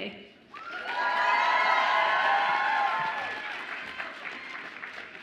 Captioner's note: audience applauds and cheers